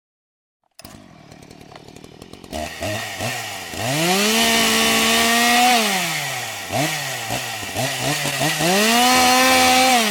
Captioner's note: chainsaw sound